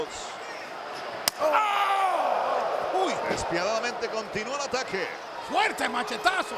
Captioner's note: applause